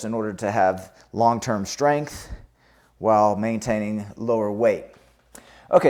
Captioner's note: none